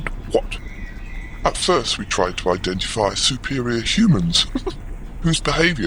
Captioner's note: laughs